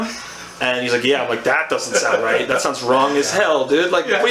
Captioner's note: laughs